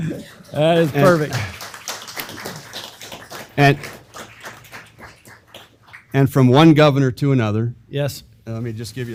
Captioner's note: laugh; applause